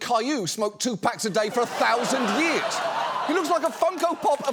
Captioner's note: studio audience laughs